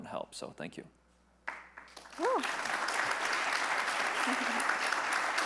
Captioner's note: attendees clapping; chuckles